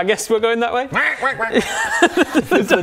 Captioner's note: quack quack quack quack